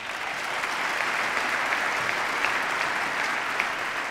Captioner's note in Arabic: تصفيق